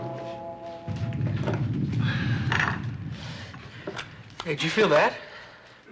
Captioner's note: cave rumbling